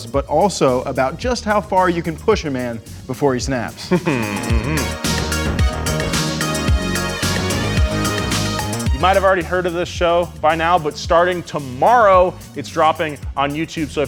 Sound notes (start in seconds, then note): 3.8 chuckles; 4.8 upbeat music